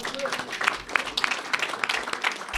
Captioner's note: applause